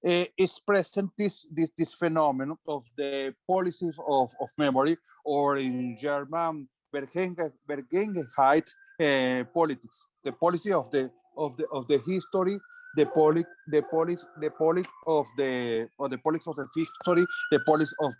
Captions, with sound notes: is present this phenomenon of the policies of memory, or in German (speaking foreign language) politics, the policy of the history, the politics of the history, the politics of the memory.